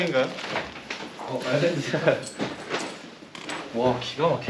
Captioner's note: hehe